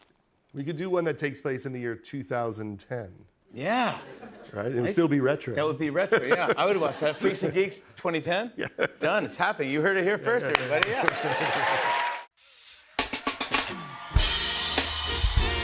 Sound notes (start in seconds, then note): 10.5 cheering, applause; 12.2 jazz music